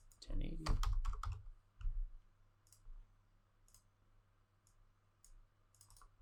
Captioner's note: keyboard clacking